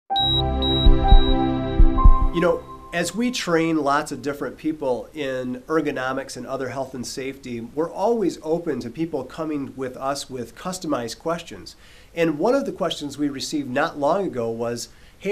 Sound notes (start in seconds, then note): 0.1 EKG beeping; 1.7 heartbeat